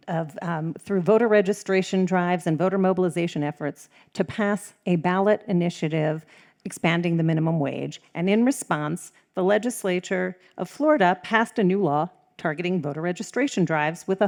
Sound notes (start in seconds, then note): none